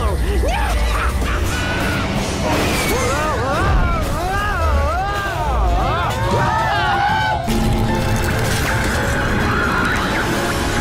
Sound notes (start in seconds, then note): 0.3 laughs again; 2.7 shouting